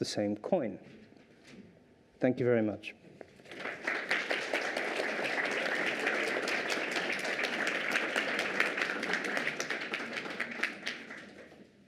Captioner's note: applause